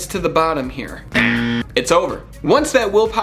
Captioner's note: buzzing